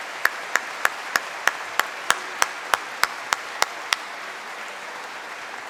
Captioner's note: applause